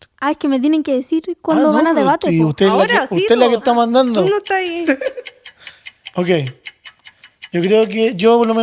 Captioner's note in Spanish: risas